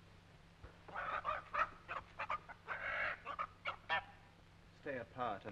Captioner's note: chickens clucking